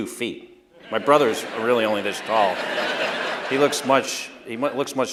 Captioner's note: laughter